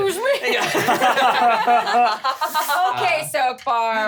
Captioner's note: laughs